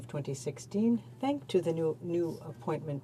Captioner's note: speaking in french